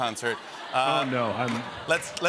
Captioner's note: laughter